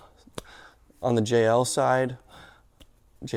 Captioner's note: palms clapping